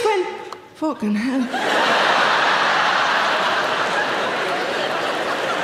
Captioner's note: audience laughing